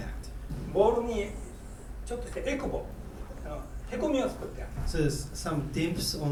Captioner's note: speaking in foreign language